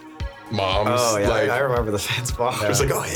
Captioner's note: laughing